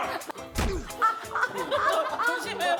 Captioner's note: bump